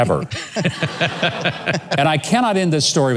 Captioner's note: laughs